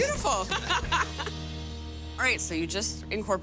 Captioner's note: laughter